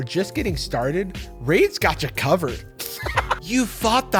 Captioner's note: laughs